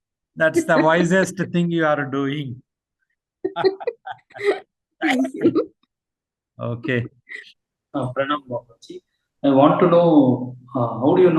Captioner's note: laughter